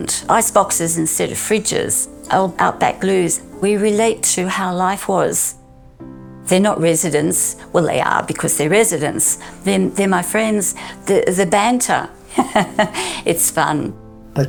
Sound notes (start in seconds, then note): 12.2 laughing